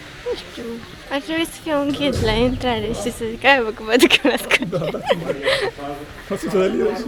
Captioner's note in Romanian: haha